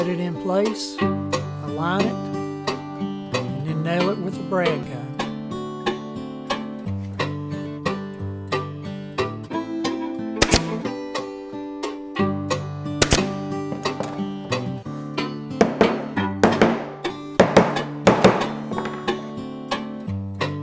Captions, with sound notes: set it in place, line it and nail it with a brad gun. (brad gun firing) (upbeat music) (wooden mallet clanging)